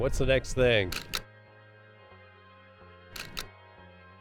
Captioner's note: camera clicks